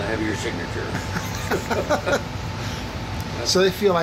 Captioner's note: laughing